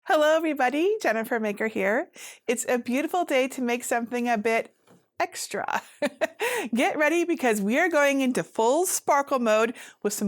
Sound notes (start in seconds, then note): 6.1 laughs